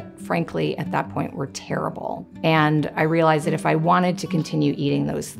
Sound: none

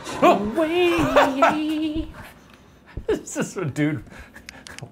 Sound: laughs

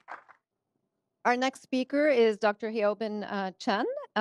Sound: applause

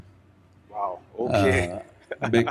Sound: laughs

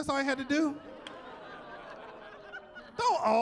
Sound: chuckling

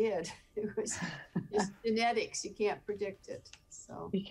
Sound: laughing

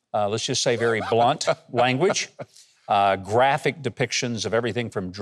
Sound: Robert chuckling

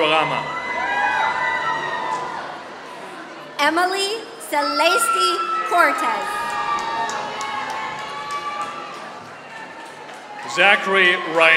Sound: applause

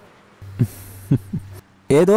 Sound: chuckles

